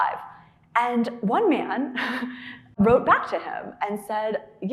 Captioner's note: chuckling